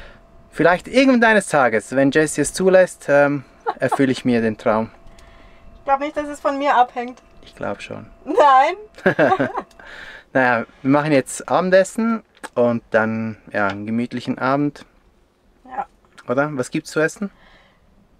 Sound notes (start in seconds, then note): 5.3 laughs; 9.0 laughter